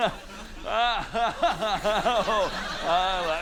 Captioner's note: continues laughing